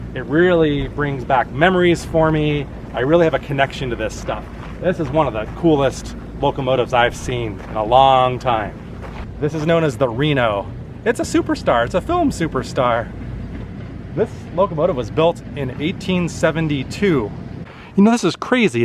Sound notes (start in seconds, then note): none